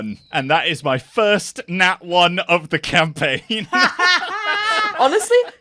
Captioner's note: laughs; more laughter